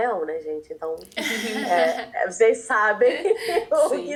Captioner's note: laughs